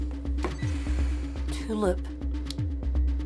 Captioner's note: beeps